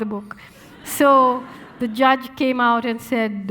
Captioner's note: audience laughing